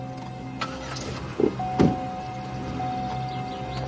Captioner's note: engine rumbling